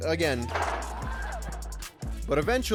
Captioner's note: goalpost rattles